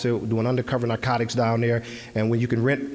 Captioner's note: none